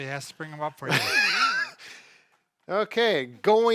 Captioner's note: chuckle